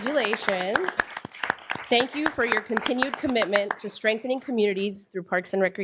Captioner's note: applause